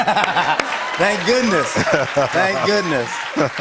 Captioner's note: cheers and applause